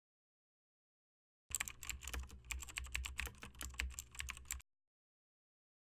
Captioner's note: typing sounds